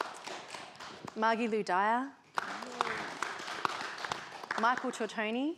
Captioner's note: participants applaud; participants applaud